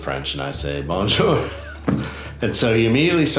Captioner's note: laughing